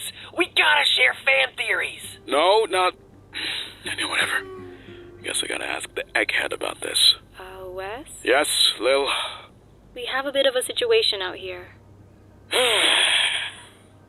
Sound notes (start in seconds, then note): 3.4 sigh; 9.1 sigh; 12.5 sigh